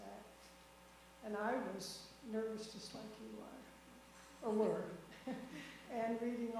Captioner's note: laughs